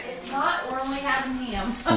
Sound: laughing

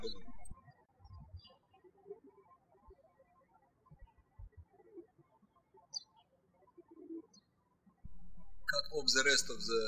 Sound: birds chirping

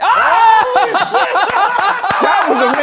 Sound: screaming and laughing

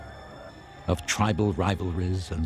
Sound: crowd shouting

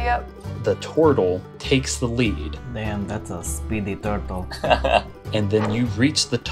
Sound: laughter

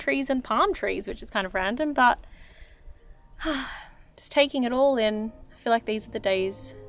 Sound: sighs

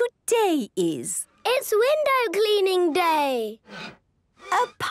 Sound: squeegee squeaking

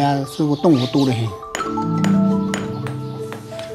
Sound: sound of hammer

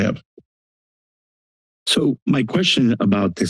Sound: silence

